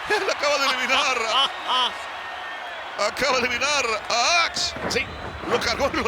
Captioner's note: laugh